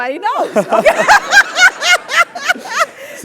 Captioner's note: laugh